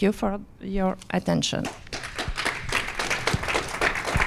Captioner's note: applause